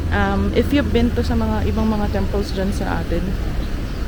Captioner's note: chinese